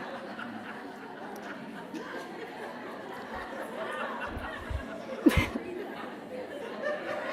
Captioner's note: laughs